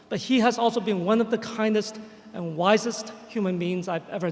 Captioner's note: none